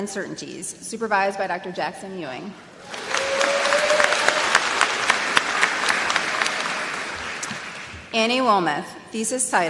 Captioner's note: applause